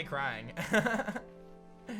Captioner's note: chuckles